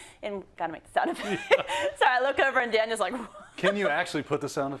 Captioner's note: laugh